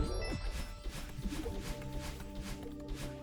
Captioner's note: nyoom